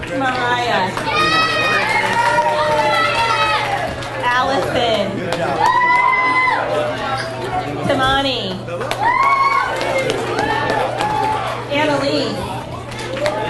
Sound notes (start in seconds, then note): 0.0 audience cheers and applauds; 5.3 audience cheers; 8.8 audience cheers and applauds